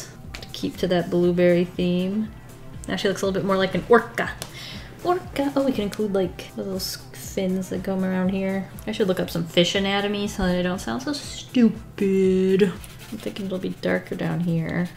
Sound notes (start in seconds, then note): none